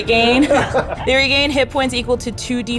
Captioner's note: group laughs